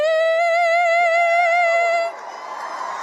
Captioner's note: cheers and applause